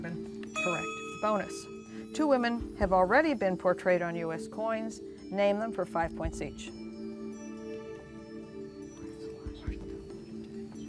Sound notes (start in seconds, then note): 7.2 whispering